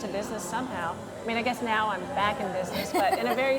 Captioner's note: laughs